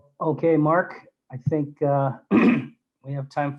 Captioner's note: clears throat